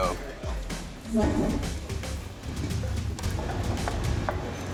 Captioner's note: chair scrapes